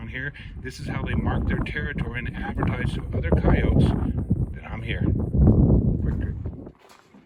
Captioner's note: footsteps crunching